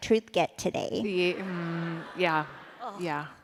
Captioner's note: laughter